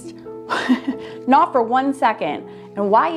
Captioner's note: laughs